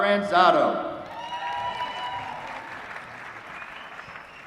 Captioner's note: applause